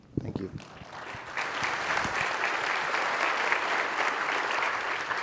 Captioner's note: applause